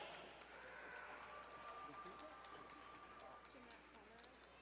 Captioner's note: distant cheering